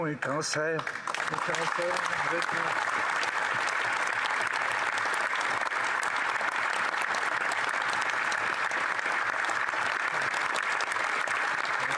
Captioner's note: applause